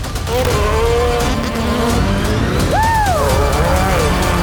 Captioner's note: engines revving